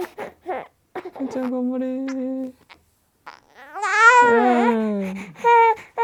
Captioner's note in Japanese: 赤ちゃんの泣き声